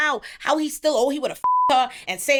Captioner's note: beep